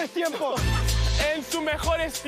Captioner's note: laughs